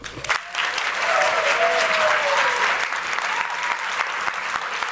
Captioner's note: applause